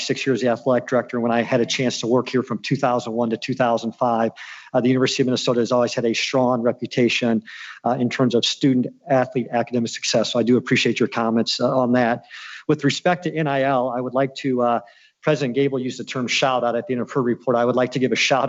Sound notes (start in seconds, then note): none